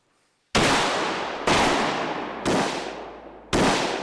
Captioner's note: guns firing